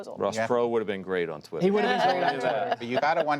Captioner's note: laughter